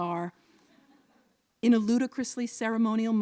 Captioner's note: laughter